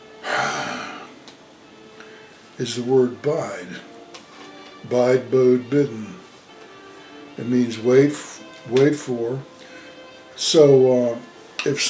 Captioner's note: sighs